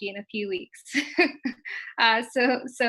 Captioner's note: chuckles